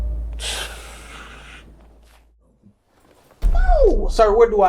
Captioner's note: boyfriend exhales